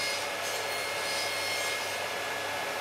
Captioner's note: saw sound